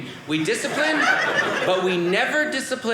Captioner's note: audience laughing